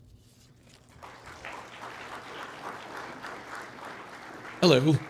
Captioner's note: audience applauds